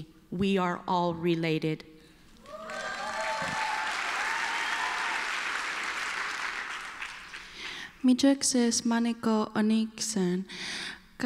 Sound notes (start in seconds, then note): 2.4 applause